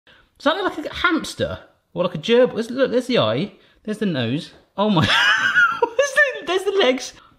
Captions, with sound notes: - Does that look like a hamster? Or like a gerbil? It's look, there's the eye, there's the nose. Oh my! (laughs) There's the legs!